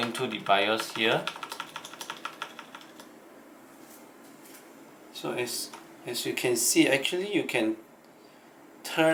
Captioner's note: keyboard clicking